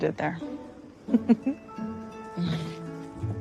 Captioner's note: giggles